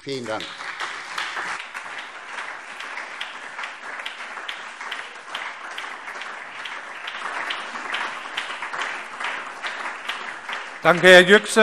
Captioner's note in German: Beifall SPD, DIE LINKE, vereinzelt CDU und BÜNDNIS 90/DIE GRÜNEN